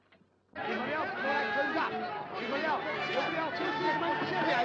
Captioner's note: raucous crowd noise